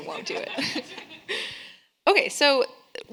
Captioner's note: all laughing